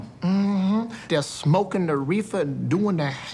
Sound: mmhmms

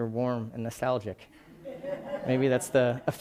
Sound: laughing

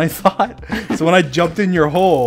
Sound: laughs

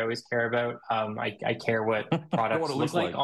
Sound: host chuckling

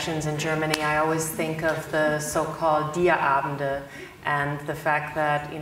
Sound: speaks German

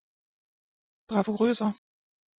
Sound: fast Pronunciation

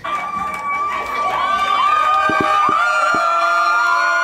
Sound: cheering

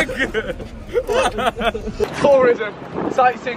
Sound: laughing

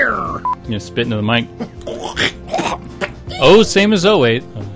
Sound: makes gross, snotty spitting noises

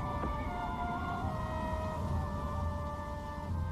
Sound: wind whistling

